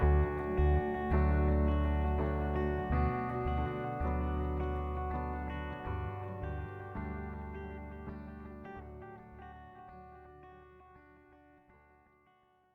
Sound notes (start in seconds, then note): none